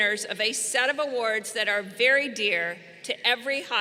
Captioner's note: none